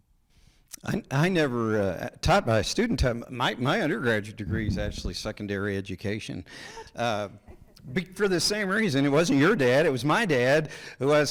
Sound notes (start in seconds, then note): 7.0 audience member laughs